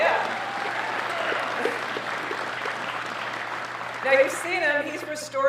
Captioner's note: applause